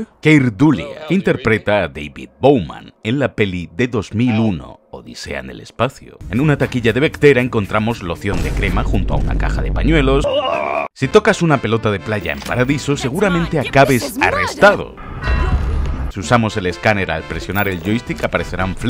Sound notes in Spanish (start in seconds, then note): 9.9 grita